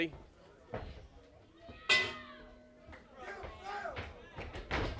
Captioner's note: bell ringing; crowd chatter